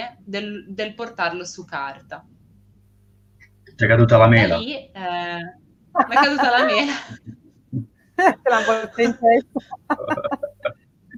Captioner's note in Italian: risate